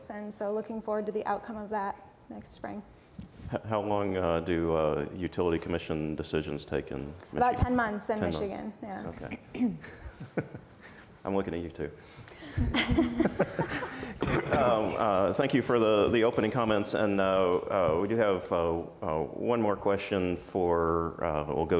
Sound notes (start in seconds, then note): 12.6 laughs; 12.8 audience laughs